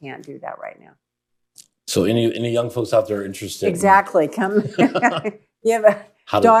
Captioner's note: laughter